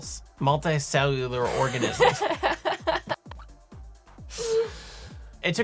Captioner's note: laughing